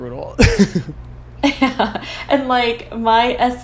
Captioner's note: both laughs